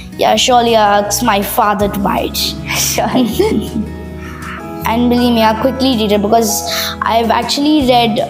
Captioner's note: laugh